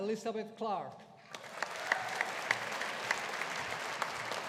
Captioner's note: audience applauding